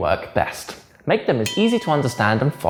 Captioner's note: bell dings